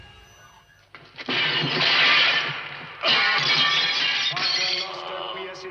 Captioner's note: glass shatters; priest chanting in Latin